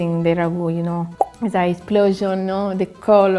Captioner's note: speaking in foreign language